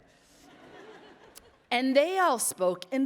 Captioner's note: attendees laughing